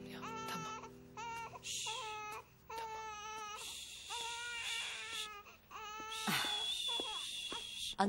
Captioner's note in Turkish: bebek ağlama sesi̇